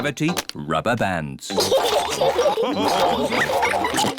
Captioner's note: all laugh